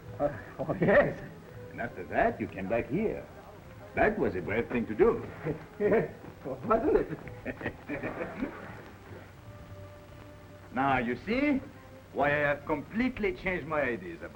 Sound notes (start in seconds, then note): 6.6 Pepe chuckles